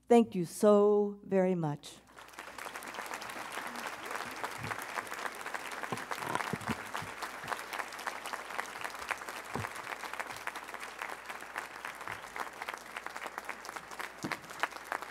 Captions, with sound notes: Thank you so very much. (audience applauding)